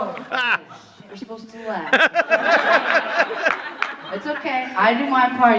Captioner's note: audience laughing